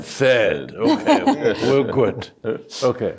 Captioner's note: chuckles